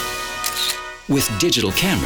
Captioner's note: camera clicks